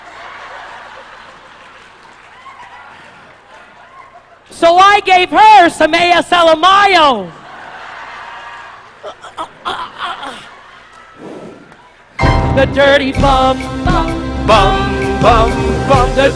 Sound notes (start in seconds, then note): 0.1 audience laughs; 9.0 choking sounds